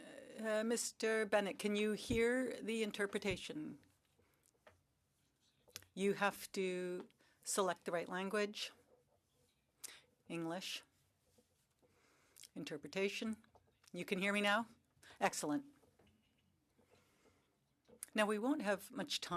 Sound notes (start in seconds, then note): 3.9 speaking French